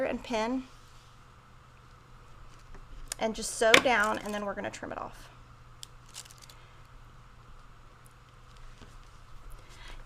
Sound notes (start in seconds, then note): none